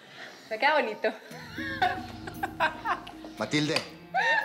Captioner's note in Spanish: Ríe